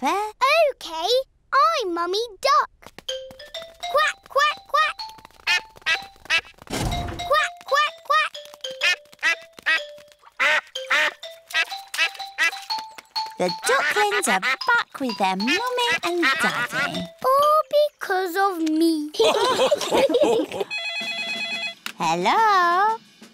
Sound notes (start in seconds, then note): 5.4 ducklings quack; 10.3 ducks and ducklings quack; 10.3 ducklings quack; 19.2 all laugh; 20.5 phone rings